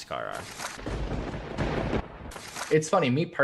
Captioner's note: thunder cracks